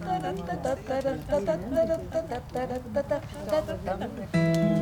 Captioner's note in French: Louise et Hélène chantonnent